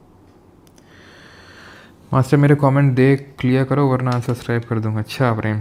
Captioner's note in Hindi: अचानक ज़ोर से सांस लेने की आवाज़